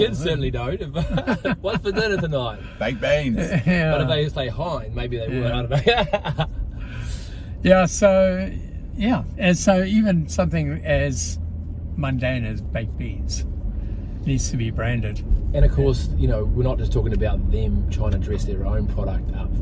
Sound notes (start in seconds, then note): 5.4 chuckles